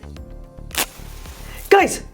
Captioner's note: match lighting